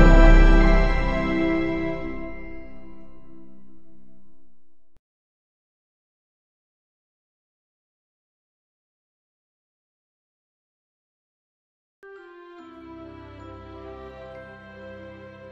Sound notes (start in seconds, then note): 5.6 silence; 12.0 relaxing music plays to the tune